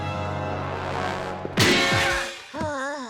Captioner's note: Milo groaning in pain; metal crash; logo whooshes; suspenseful music